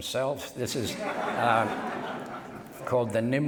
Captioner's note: laughter